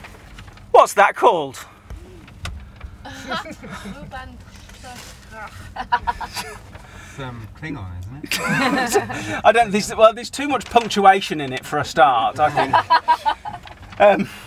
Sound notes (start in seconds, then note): 1.9 audience murmur; 12.4 laughter